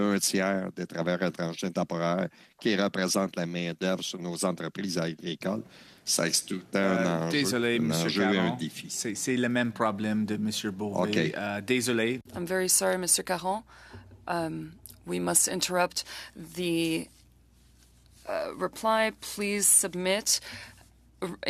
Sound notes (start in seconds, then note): 4.1 speaking French